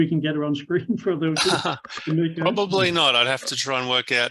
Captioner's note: laughs